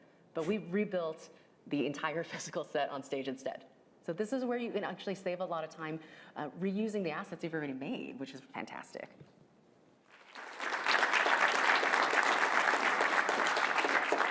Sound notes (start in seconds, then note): 10.1 applause